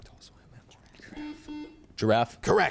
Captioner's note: buzzer chimes